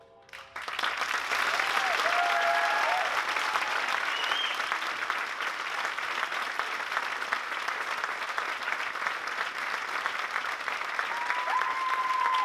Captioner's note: applause